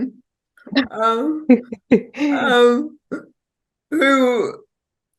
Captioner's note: laughing